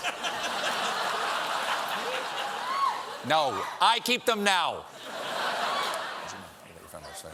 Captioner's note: laughter